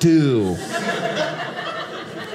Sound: audience laughing

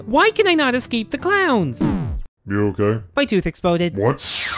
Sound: sound indicating damage

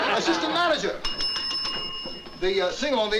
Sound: rings bell

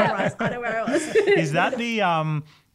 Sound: all laugh

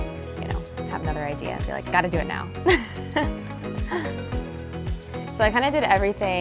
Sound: chuckles

